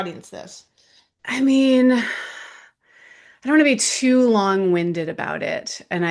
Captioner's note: sighs